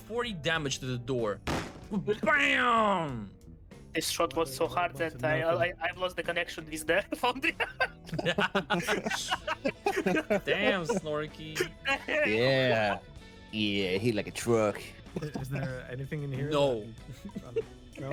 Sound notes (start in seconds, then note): 1.5 door slamming; 7.1 laughs